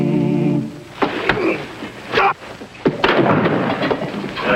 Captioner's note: robber grunting; rock thuds; body thuds